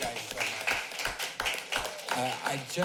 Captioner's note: applauding